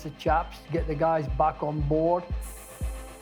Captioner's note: instrument hissing